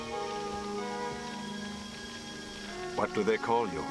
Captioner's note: fire crackling